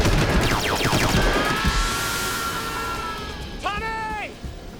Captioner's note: male scream